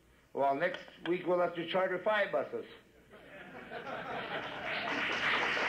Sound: applause and laughs

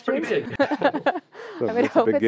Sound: laughter

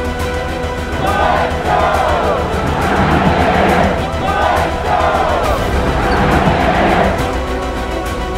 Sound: crowd chanting

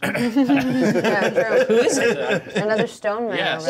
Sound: co-hosts laughing

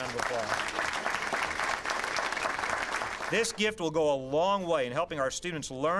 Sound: applause

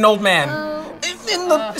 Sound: coworkers groan

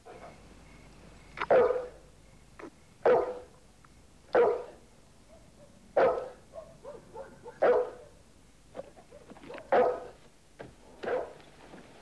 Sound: dog barking

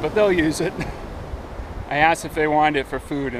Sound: chuckles

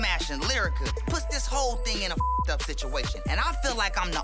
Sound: beep

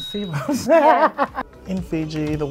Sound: laughs

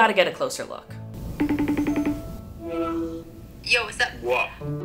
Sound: cellphone ringing

